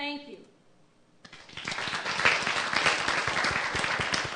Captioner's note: applause